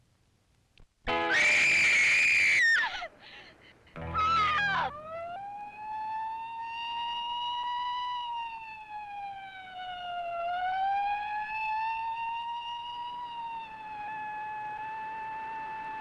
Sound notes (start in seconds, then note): 1.1 Jane screams; 5.3 siren blaring